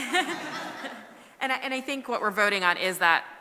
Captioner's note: laughter